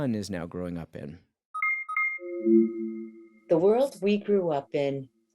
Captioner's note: device beeping